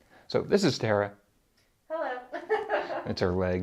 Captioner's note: laughs